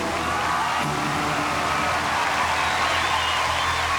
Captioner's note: cheering and applause